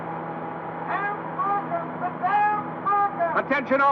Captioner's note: man shouting